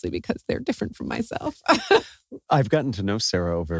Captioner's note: laugh